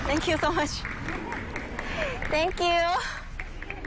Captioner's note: applause